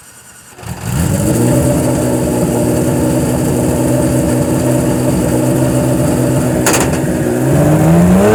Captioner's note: engine Starts; engine Revs